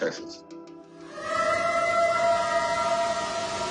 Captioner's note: eerie howl